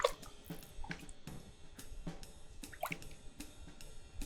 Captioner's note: water laps